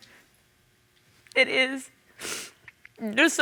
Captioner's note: sniffs